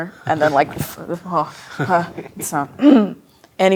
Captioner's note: clears throat